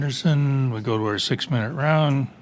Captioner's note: speaking French